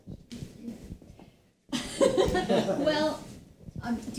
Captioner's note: all laugh